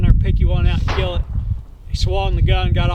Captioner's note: gun fires